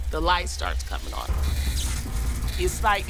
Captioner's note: electrical sparking